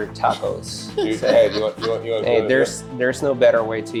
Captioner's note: laughs